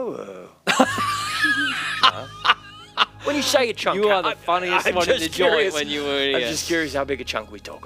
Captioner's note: Horris laughs in his face